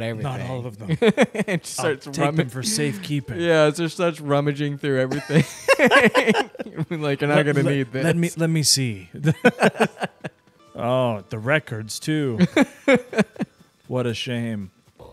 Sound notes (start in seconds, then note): 5.1 both laughing; 9.2 both laughing